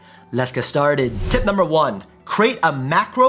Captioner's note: whooshing sound